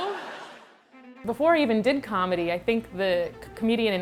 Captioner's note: audience laughs